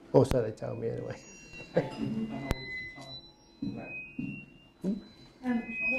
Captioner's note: microphone interference